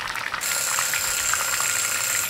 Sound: alarm rings

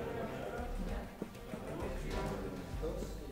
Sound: class talking

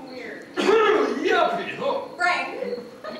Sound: loud cough

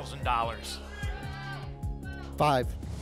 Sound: audience shouting numbers

